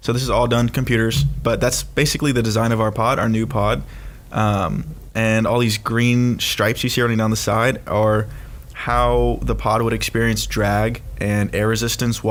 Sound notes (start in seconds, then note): none